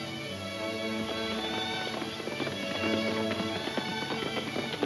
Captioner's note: hooves thudding